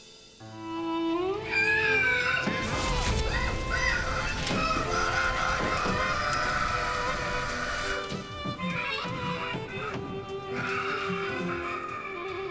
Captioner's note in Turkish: Bağırış sesleri